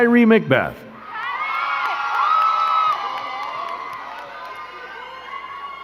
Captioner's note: crowd cheering and clapping